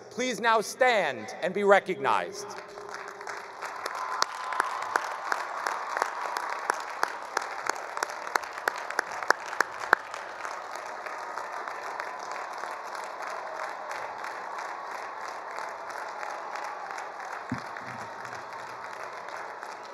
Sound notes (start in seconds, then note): 2.5 attendees cheering; 3.6 attendees applauding